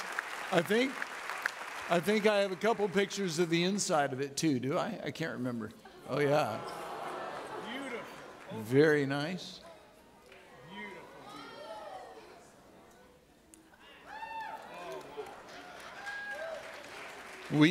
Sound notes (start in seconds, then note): 11.3 audience clapping